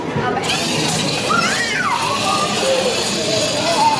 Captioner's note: crowd chattering; robot car whirring